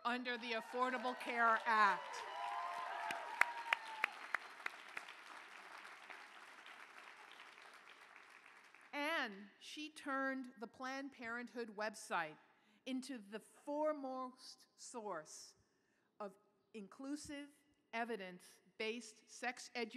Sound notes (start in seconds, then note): 0.2 applause